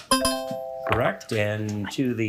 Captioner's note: bell ringing